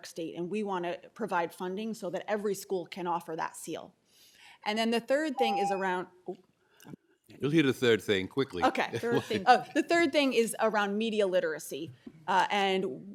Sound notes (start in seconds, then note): 5.3 tone